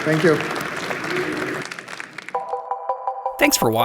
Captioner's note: applause